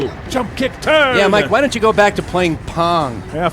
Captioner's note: crow